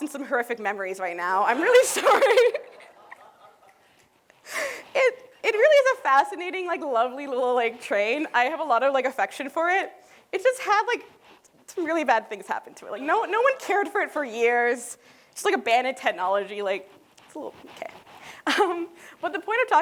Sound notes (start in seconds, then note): 1.7 laughter